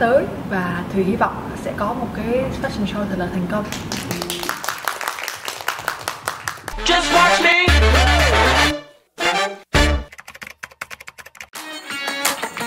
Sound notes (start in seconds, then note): 7.4 clap